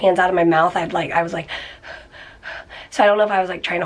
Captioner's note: trying to catch her breath